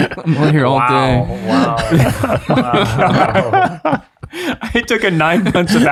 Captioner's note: all chuckling